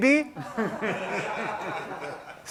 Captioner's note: laughter